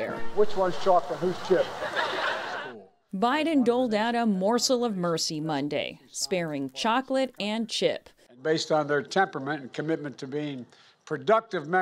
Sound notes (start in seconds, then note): 1.6 laughter